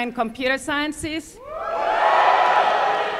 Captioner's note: cheering